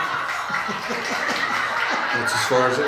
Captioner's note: audience laughing; laughing